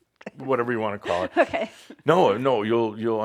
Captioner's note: chuckling